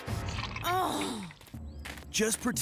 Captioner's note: Heather Sighing